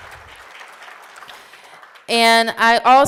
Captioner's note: applause